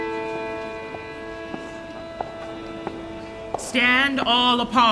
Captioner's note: approaching footsteps